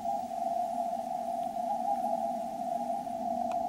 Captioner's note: the sound of interference drones on